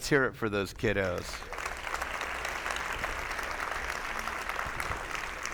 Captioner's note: attendees applauding